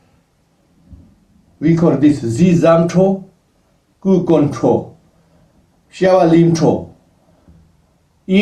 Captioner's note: tibetan